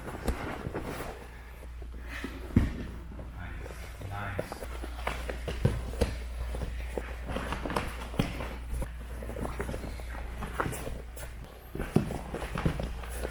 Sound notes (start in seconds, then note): 0.0 fabric rustling; 5.7 stomping; 8.5 fabric rustling